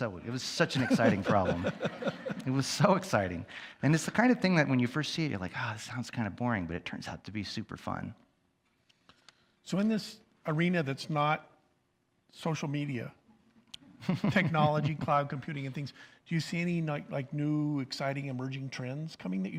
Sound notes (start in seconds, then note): 0.8 audience chuckles